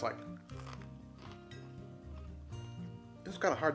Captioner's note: crunches